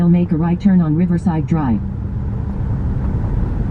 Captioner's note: car navigation speaks